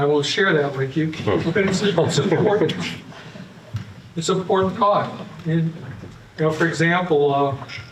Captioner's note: laughter